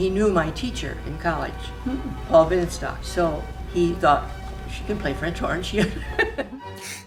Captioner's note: laugh